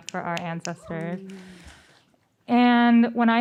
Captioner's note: sighs